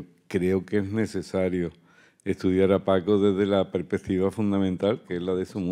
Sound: continues in Spanish

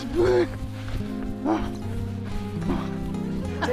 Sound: heavy breathing

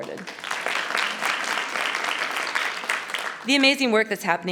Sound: audience applauding

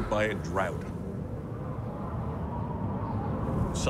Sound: wind blowing

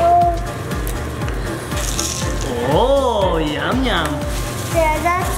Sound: sprinkles clatter

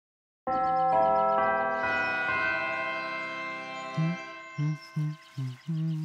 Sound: bells chime

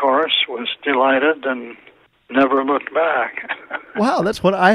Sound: laughs

